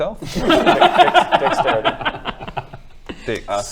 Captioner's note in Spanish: risas